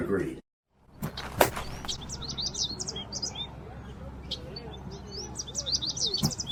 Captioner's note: birds chirping